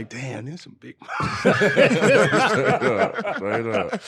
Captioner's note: laughing